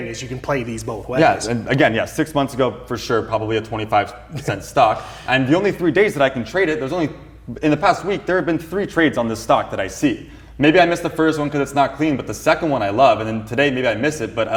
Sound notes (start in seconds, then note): 4.3 chuckles